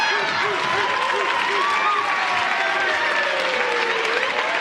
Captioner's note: Sirene tocando, Aproximando-se